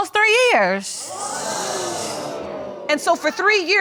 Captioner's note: audience exclaiming